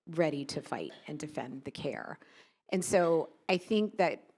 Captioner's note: none